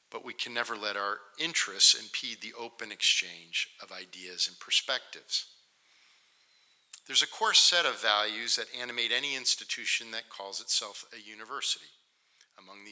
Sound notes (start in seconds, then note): none